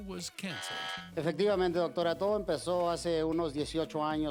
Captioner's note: speaking Spanish